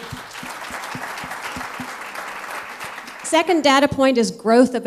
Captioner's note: applause